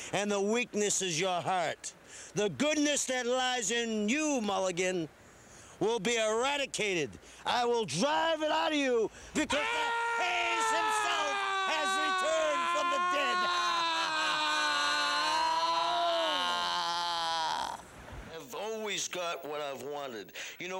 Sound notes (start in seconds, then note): 10.9 screaming